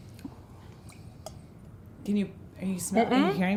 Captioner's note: sloshing